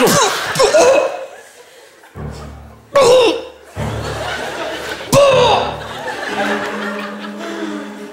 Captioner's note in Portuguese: tosse